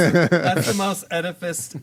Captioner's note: laughing